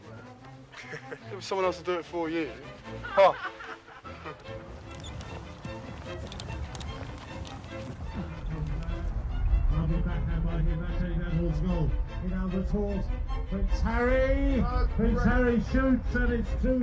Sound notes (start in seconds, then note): 0.7 William laughs; 2.6 laughing; 4.4 whimsical music; 9.7 sports announcer speaking softly; 13.5 voiceover; 16.7 voiceover